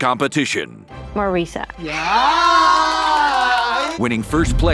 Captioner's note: all cheering